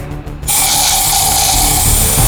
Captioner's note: intense music; gas hissing; clicking